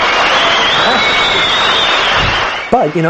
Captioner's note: audience whistling